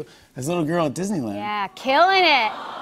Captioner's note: audience aws